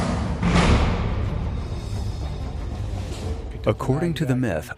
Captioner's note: dramatic music; metal banging